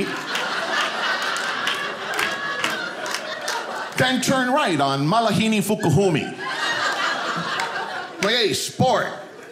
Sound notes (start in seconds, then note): 0.6 audience laughing; 6.3 audience laughing